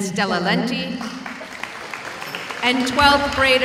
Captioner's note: audience applauding